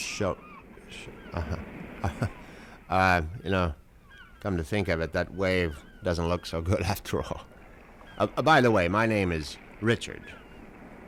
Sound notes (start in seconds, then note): 1.3 chuckles